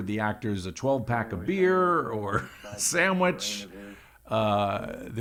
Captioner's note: laughs